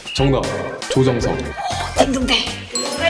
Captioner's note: Sound signifying correct answer used on K-game shows